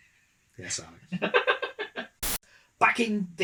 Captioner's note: laugh